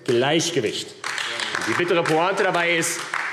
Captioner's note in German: Beifall AfD